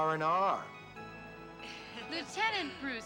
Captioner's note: people laughing